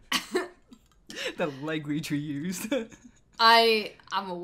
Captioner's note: awkward laugh; chuckles